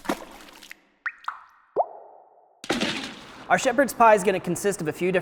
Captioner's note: dripping and splashing